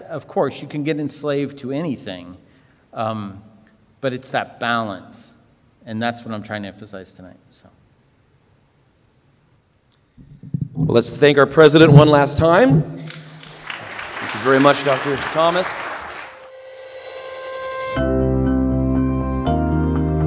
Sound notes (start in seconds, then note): 13.0 audience applauds; 16.1 optimistic music